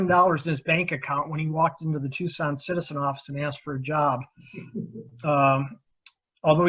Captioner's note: laughing